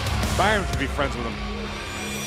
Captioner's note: engine revving